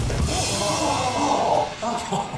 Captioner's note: gasps